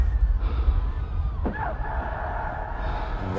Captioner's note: breathes deeply; woman's scream echoes